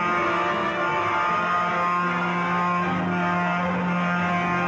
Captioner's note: train horn honking